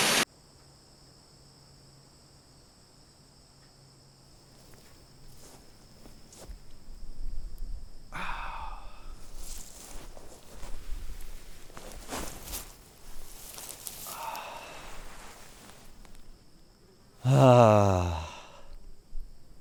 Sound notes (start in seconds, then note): 1.1 chirping insects; 17.2 sighing